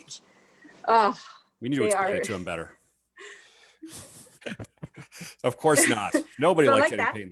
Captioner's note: laughs